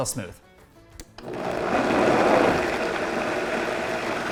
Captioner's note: blender whirs